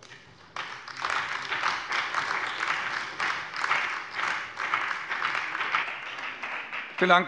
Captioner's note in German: Beifall bei dem BÜNDNIS 90/DIE GRÜNEN und der CDU